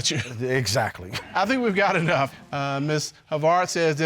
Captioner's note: judge laughs